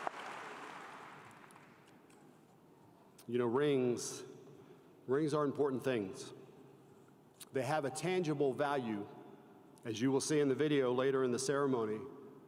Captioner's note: applause